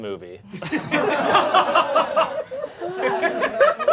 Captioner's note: audience laughing